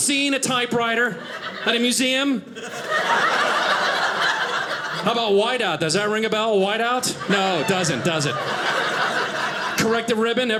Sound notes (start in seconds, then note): 2.5 audience laughing